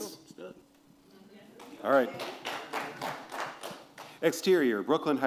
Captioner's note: applause